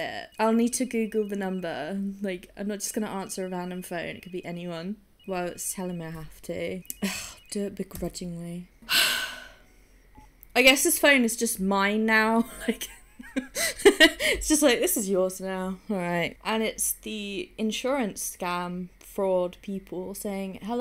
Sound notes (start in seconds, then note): 8.8 sighs; 12.4 laughs